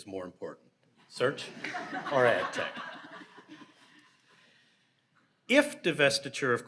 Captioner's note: audience laughs